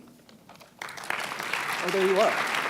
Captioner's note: applause